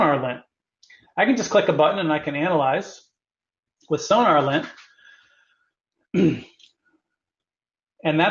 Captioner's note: cough